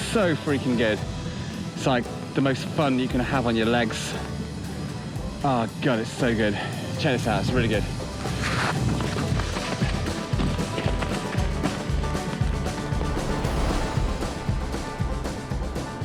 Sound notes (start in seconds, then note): 9.0 footsteps thud